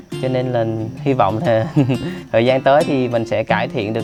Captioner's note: giggle and giggle